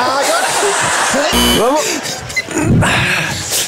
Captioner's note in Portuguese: campainha